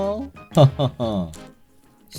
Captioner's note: laughing